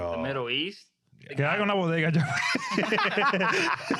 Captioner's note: speaking In Foreign Language; laughing